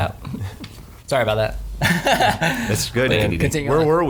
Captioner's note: laughing